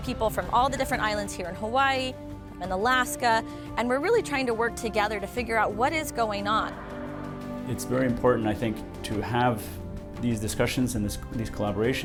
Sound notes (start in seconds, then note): 6.6 water spraying